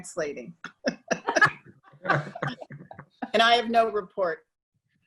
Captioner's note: laughing